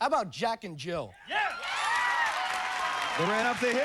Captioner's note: cheers and applause